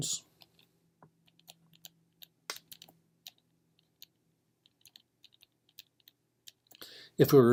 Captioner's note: typing